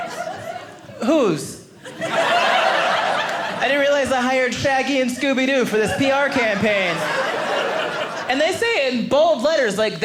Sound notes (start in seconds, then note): 1.8 audience laughing